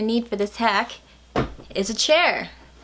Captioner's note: smacks chair dramatically